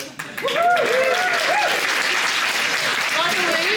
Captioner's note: cheering, applause